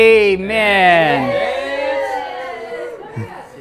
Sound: cheering

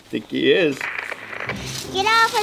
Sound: static crackles

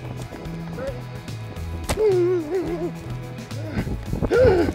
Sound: grunting

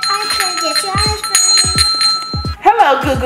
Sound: ringing bell

